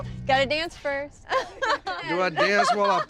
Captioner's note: laughter